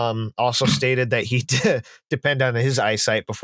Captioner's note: snorts; laughs